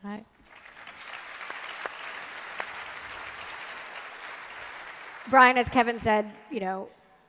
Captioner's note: applause